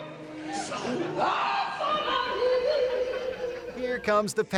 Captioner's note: woman shrieking